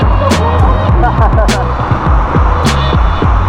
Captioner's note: laugh